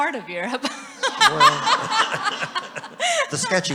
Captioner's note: everyone laughing